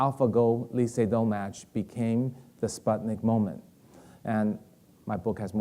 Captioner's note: speaking in foreign language